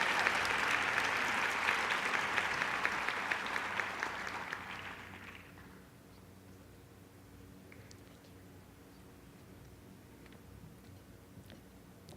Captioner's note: applause